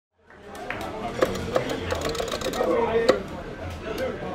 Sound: crowd chatter

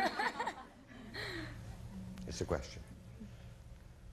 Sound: audience laughing

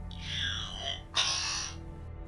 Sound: coughs

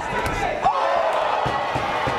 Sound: crowd

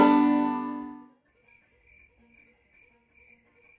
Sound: crickets

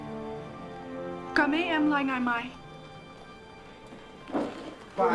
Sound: Vietnamese

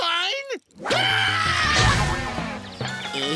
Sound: groaning; screaming

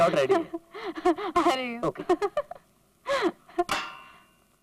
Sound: laughs

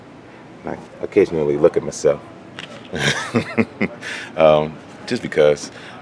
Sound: laughing

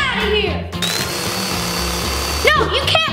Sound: vacuum whirring

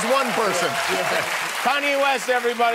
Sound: cheers and applause

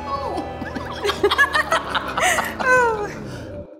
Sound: laughter

